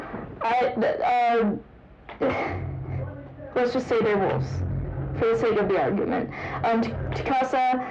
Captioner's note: stutter